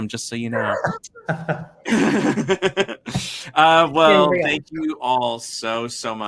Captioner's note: laughs